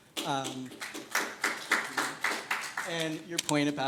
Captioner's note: scattered applause